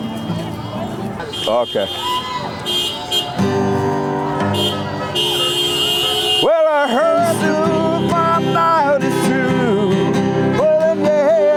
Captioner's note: crowd cheering